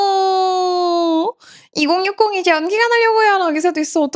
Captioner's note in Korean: 비명